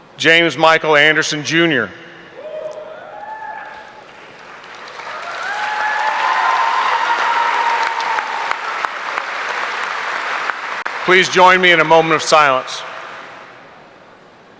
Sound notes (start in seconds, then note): 2.9 audience cheering; 3.5 audience applauding